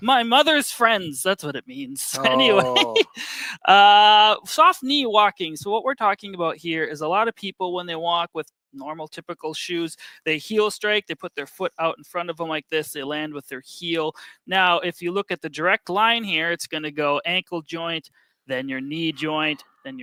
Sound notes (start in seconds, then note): 2.1 laughs